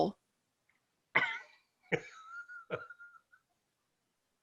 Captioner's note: laughs